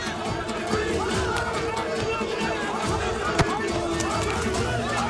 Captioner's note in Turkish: Yuhalama sesleri